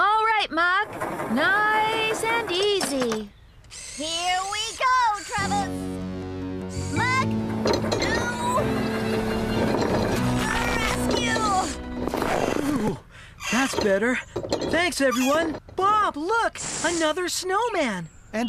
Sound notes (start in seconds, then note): 6.6 straining